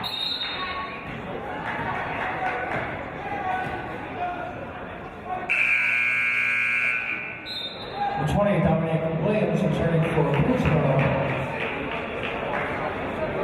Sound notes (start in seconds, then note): 0.0 referee's whistle; 5.5 buzzer; 7.6 referee's whistle